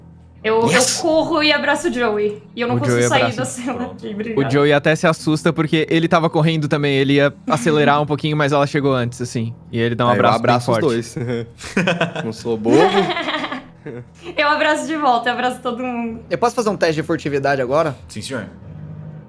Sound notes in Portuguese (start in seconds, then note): 11.0 risos